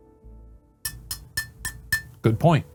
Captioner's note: tapping on cup